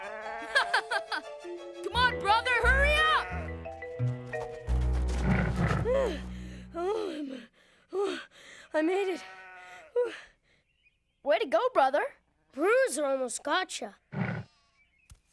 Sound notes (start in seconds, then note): 5.2 laughing; 7.5 panting